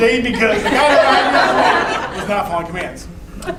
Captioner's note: laughter